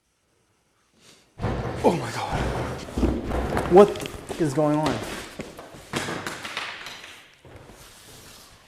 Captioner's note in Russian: Громкий стук в дверь